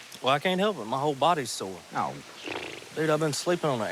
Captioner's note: blows raspberry